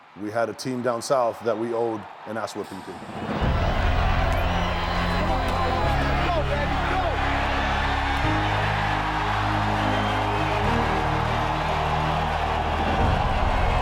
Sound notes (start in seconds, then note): 3.2 dramatic music; 7.5 crowd cheering; 11.0 dramatic music